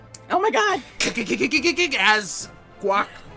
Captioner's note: cart clacking